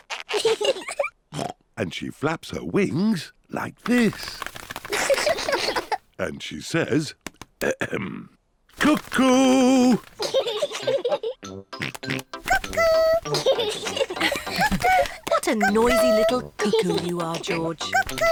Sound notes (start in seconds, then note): 0.2 both laugh; 1.3 oinks; 4.9 both laugh; 10.1 both laugh; 11.8 oinks; 12.5 both laugh